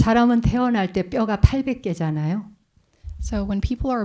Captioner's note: speaking in Korean